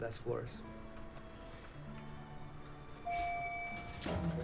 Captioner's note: doors ding